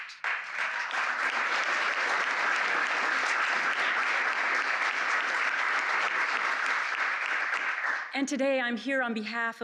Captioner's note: applause